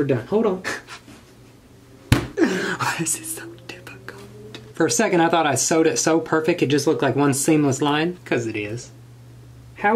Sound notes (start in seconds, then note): 2.3 sobs